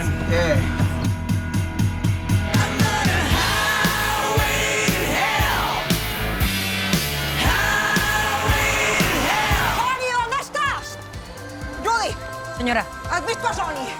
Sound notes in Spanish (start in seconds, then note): 9.2 A gritos